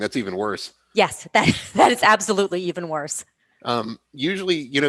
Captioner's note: laughs